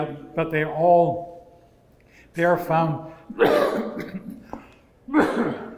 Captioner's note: cough